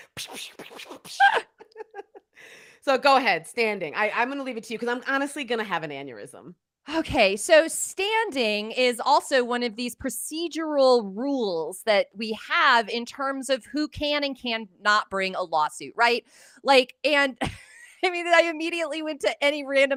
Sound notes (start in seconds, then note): 1.2 laugh